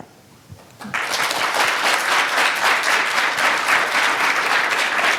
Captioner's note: audience applauding